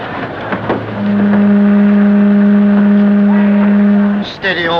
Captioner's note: ship horn